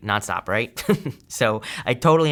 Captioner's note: chuckling